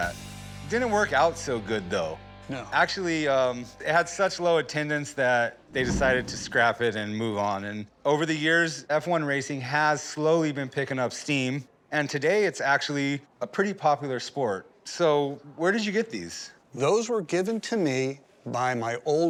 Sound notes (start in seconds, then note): none